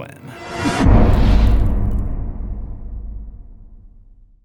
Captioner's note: impact